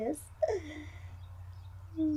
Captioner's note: laughs